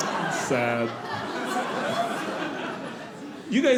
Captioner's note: audience laughing